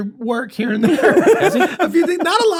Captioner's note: laughter